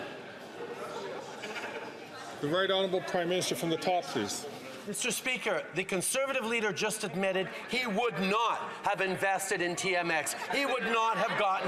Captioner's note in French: voix de l'interprète